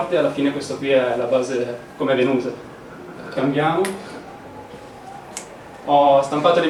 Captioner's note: snap